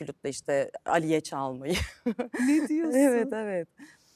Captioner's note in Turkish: kahkaha